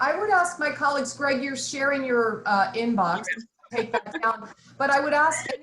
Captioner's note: laughing